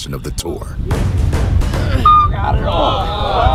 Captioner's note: dramatic lively music; student grunting